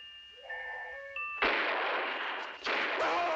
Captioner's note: gunshots